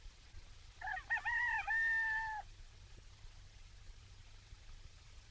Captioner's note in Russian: поет петух